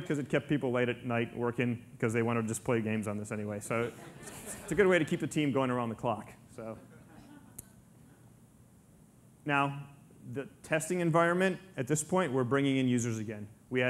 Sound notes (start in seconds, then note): 3.8 audience laughter